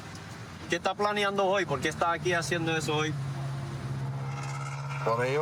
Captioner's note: speaking spanish